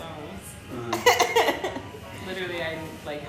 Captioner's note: laughing